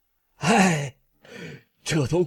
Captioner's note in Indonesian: Menghela napas